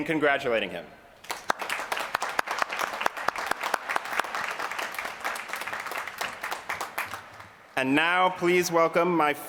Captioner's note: applause